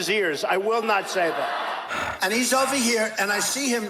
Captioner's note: laughing